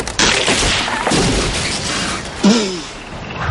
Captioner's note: crash; tree branch cracks; spits